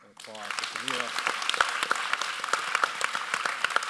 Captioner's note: audience applauds